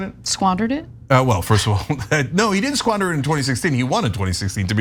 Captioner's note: laugh